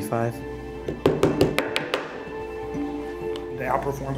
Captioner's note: knocking on table